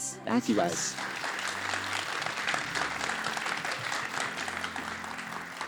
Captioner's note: applause